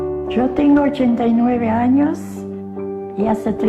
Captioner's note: speaking spanish